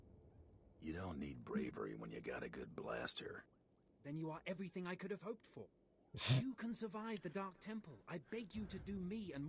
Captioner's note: laughs